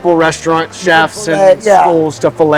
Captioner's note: voice drowns